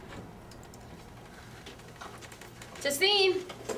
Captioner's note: door opening